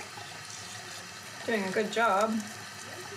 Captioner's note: water bubbles